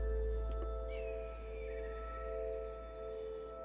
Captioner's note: birds squawking